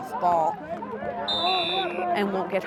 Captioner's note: whistle blows